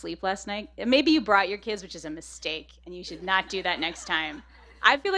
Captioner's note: laughter